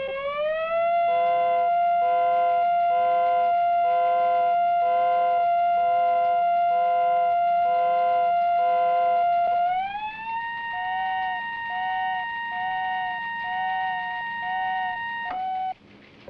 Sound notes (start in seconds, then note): 2.6 high pitched whine